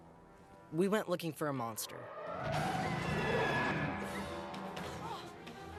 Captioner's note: screaming